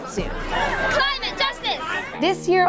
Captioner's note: chants